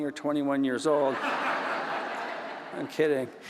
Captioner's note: audience laughs